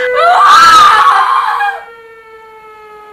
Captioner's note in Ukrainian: Кричить